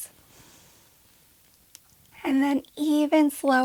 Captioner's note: inhaling